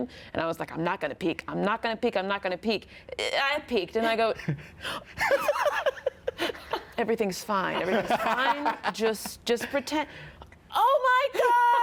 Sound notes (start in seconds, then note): 4.7 gasps; 5.2 laughs